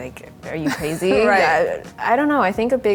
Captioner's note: laughs